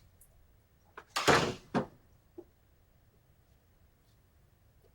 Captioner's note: door thudding